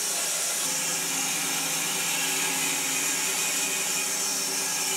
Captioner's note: saw whirring